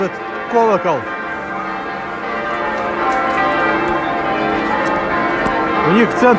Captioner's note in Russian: звон колоколов